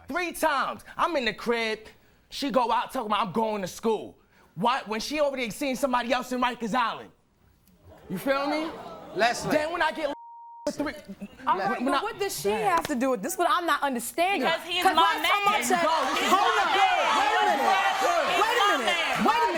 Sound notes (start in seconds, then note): 10.1 beep